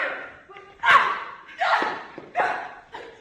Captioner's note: sounds of s struggle